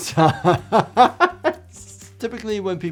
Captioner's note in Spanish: persona riendo